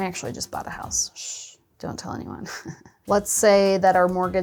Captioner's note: chuckles